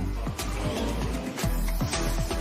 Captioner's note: spectators murmur